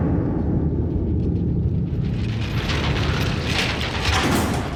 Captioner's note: gates clinking; gates slam